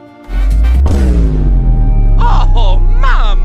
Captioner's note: vine boom + bass boost